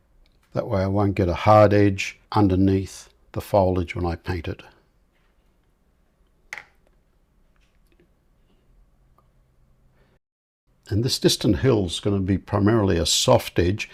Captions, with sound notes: That way I won't get a hard edge underneath the foliage when I paint it. [silence] And this distant hill's going to be primarily a soft edge,